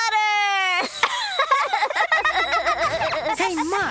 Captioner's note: laughing